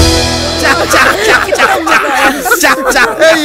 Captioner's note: Everyone laughing